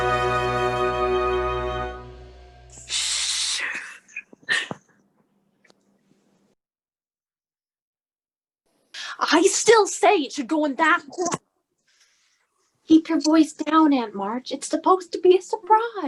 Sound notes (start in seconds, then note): 0.8 various excited hushing noises